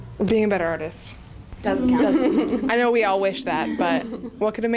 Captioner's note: laughter